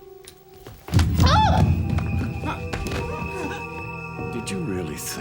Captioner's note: Emily shouting